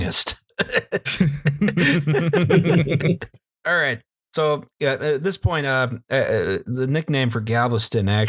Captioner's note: laughter